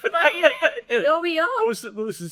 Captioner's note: audience laughing